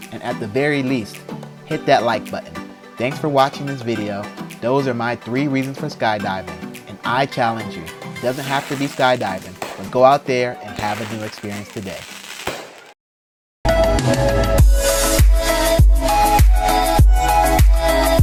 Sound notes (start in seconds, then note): 12.6 fireworks popping; 13.7 upbeat music